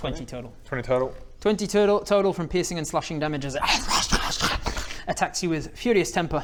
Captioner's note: rarrgh-rrwr-szshh